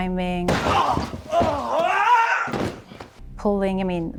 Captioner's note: screams